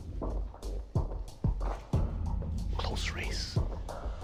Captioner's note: whispering